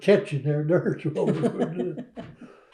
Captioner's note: laughter